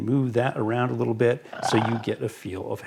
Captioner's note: monster snarling